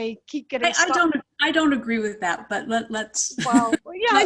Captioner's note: chuckles